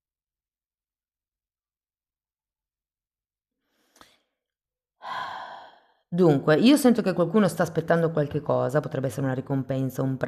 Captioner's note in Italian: sospiri